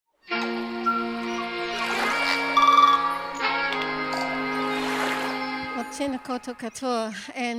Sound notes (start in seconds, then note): 0.2 bright music; 0.3 waves crashing